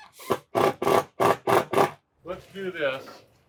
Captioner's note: machine drilling